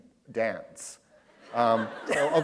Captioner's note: laughter